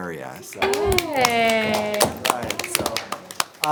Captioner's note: all applaud